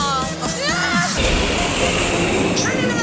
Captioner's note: plane engine roaring